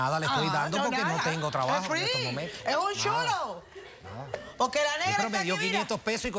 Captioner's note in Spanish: Risas del público